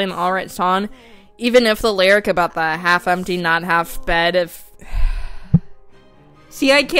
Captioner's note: sigh